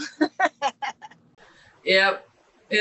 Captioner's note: laughing